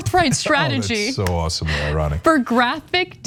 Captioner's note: laugh